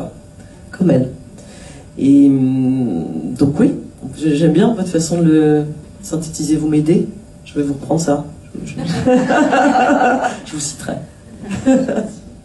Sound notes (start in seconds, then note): 8.8 laughs